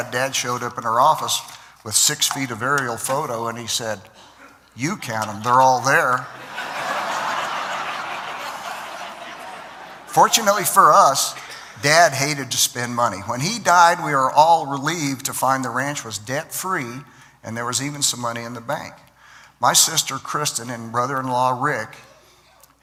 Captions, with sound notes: dad showed up in her office with six feet of aerial photo, and said, "You count them, they're all there." (Laughter) Fortunately for us, dad hated to spend money. When he died, we were all relieved to find the ranch was debt-free and there was even some money in the bank. My sister, Kristen, and brother-in-law Rick,